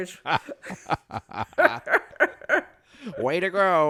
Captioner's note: both laugh